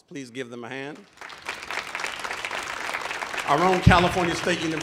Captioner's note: audience applauding